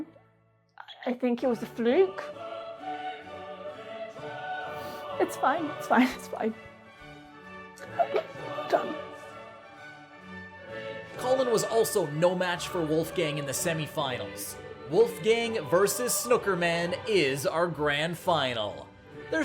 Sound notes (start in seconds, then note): 7.7 chokes; 10.8 bright music